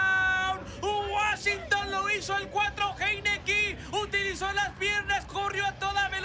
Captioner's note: speaks in Spanish